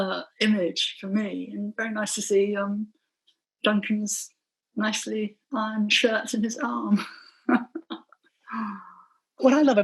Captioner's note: laughing